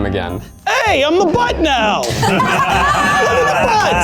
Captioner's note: in puppet voice; all laugh